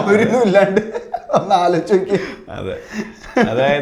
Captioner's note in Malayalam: പൊട്ടിച്ചിരി